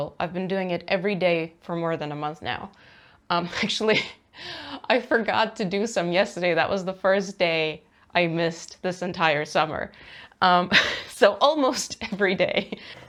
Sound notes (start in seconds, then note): 4.2 laughs; 12.6 laughs